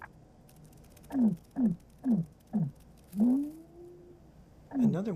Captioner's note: rhythmic hooting